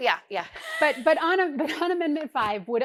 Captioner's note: laughing